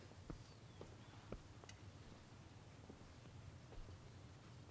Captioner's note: birds chirping